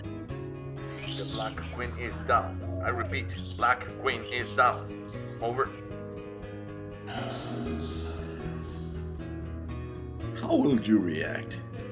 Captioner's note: background radio static noise